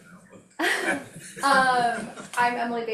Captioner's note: all chuckling